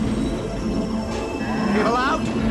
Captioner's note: bull grunt